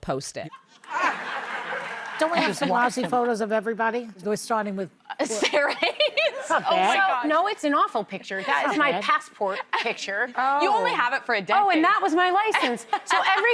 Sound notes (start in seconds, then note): 0.6 laughter